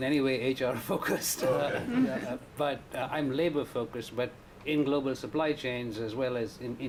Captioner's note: laughter